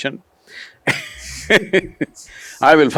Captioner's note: laughs